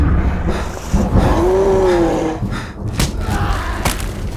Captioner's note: lightning cracking; thunder rumbling; creature growling; victim gasping fearfully; bone snapping; victim groaning loudly